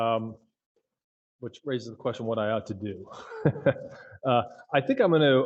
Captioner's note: laughs